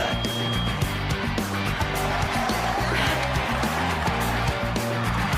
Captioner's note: crowd cheers